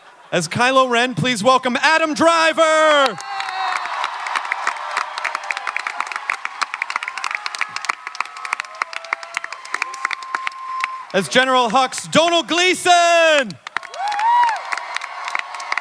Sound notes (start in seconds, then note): 3.1 audience clapping and cheering; 13.7 audience clapping and cheering